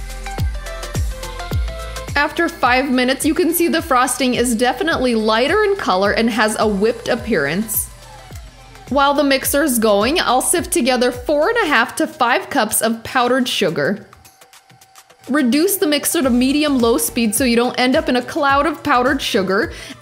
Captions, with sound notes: After five minutes, you can see the frosting is definitely lighter in color and has a whipped appearance. (mixer whirring) While the mixer is going, I'll sift together 4 1/2 to 5 cups of powdered sugar. (mixer whirring) Reduce the mixer to medium low speed so you don't end up in a cloud of powdered sugar